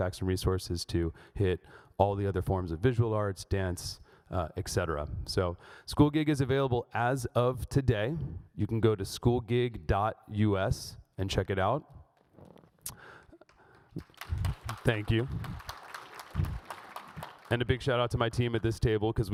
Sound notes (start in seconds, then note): 16.1 audience applauds